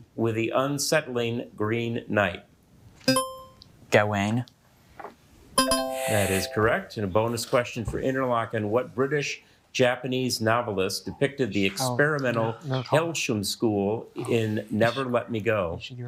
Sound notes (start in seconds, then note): 3.1 buzzer ringing; 5.6 bell ringing